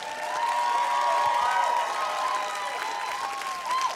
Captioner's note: cheering, applause